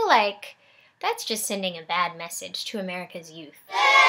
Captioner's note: cheers